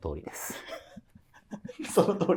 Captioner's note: laughing